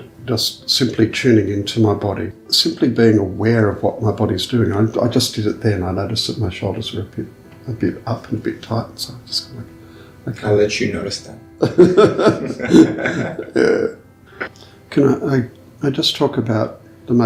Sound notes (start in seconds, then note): 11.6 both laughing